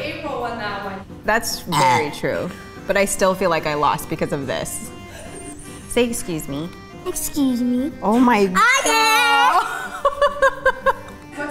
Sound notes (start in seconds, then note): 1.6 burps; 8.7 laughs